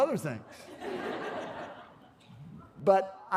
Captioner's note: laughter